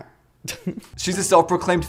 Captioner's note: chuckles